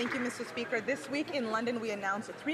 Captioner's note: applause